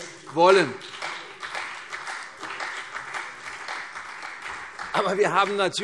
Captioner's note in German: Beifall CDU und vereinzelt BÜNDNIS 90/DIE GRÜNEN